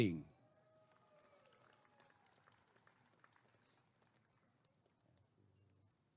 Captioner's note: applause and cheering